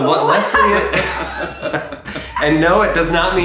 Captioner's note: laughing